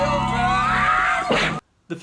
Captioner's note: plunger to the face noise